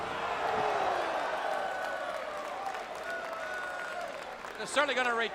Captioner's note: crowd cheering